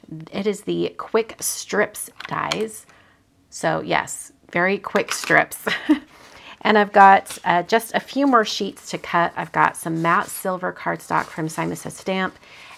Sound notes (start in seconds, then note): 5.6 laughing